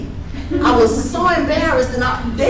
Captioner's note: participants laughing